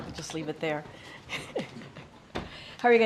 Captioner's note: laughs